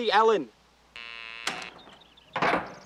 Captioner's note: security lock buzz